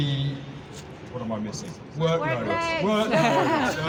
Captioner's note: shouts of 'workloads!'; laughter